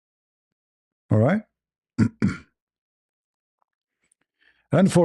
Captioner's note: berdehem